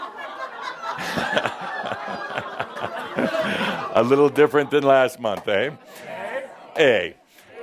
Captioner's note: more laughter